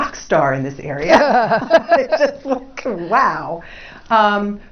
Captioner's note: laugh